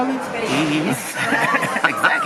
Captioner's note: laughs